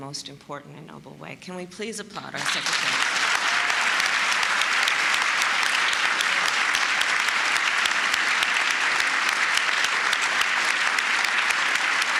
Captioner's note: applause